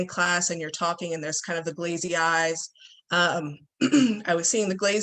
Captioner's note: clears throat